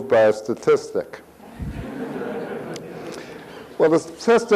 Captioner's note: audience laughs